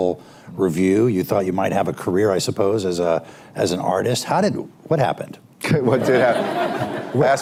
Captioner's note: laughter